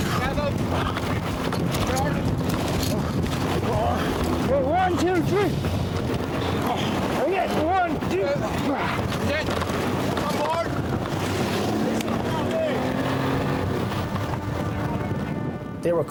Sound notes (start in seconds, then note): 1.8 fisherman gurgles; 6.4 fisherman groans; 11.1 boat droning; 11.1 water whooshing; 11.9 droning drowns out speaker; 13.2 boat droning; 13.2 intense music